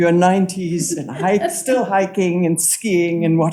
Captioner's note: audience member chuckles